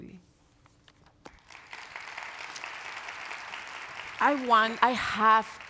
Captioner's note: audience applauds